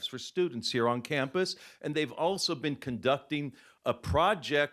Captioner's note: none